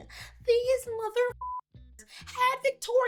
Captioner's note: beep